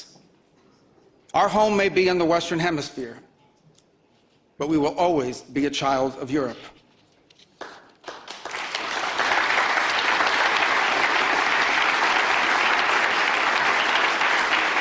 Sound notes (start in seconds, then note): 10.1 Aplausos